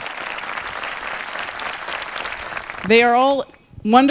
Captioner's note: audience applauding